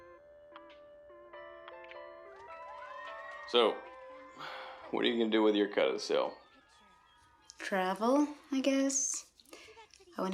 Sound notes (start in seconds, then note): 2.6 children laughing